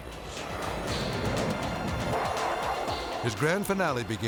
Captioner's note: jet roaring